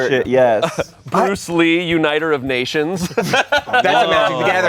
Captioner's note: laughs